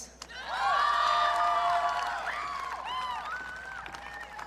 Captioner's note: audience cheering